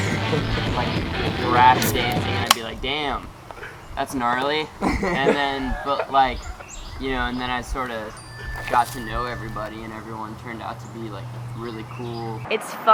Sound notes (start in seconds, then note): 0.3 man laughs; 5.1 laughs